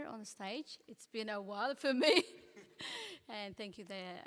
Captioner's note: laughs